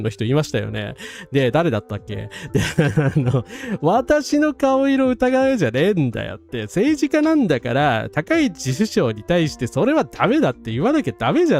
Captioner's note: laughs